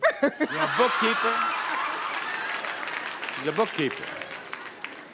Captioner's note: audience laughs